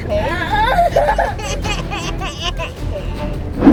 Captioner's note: and baby crying